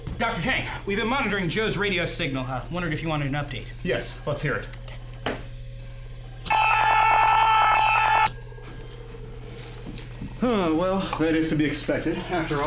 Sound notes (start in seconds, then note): 6.6 Joe screaming